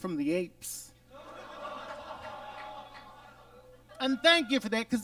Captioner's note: audience laughs